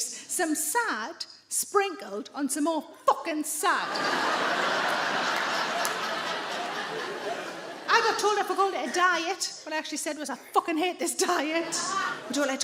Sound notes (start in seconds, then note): 3.8 audience laughing